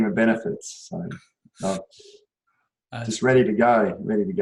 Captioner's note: laughs